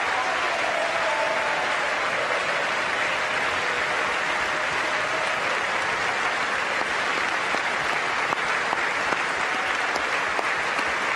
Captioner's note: applause